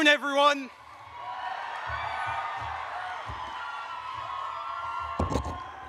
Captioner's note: audience cheers